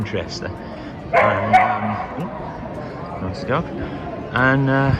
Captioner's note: dog barks